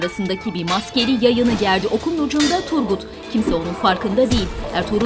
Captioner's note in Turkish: Kılıç sesleri